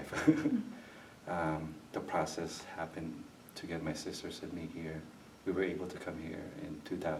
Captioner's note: chuckles